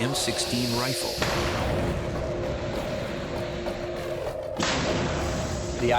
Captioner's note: gun fires